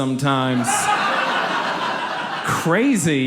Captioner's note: audience laughs